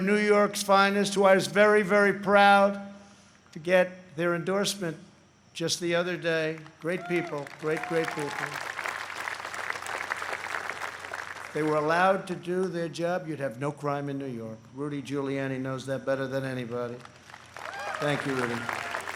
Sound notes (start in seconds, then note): 11.5 applause